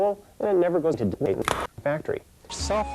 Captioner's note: snap